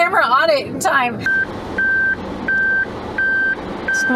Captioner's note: beeping